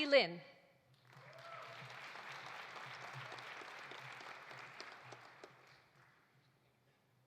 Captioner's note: audience applauding; audience cheering